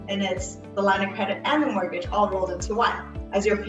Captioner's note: none